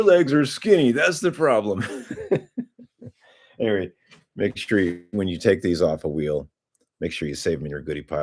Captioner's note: laughter